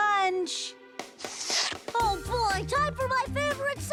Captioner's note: slurp